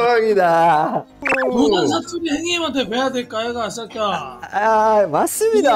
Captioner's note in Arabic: بلهجة بوسان